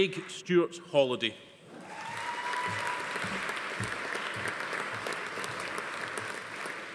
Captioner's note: attendee cheering; audience applauding